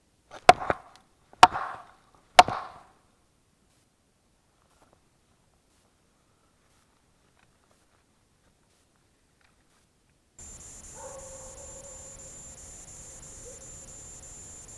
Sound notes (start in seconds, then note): 1.1 knocking; 10.4 insects chirping; 10.8 distant dog barking